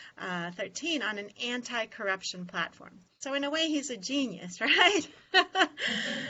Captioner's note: laughter